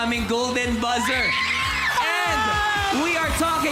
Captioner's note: screams